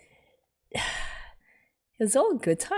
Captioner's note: sighs